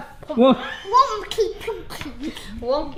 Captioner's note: laughs